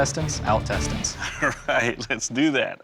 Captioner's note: laughs